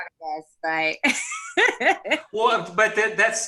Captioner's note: laughs